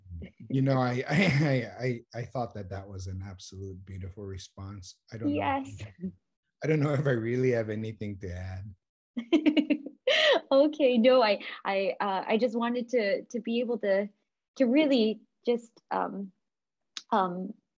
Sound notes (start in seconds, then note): 10.4 laughs